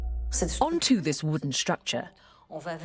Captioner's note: voiceover